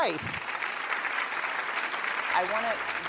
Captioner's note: applause